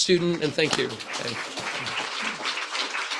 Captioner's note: crowd applauds